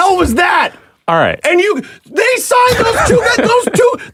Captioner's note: laughing